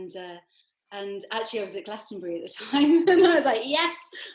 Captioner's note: laughs